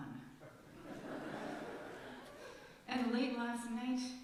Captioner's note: laughter from congregation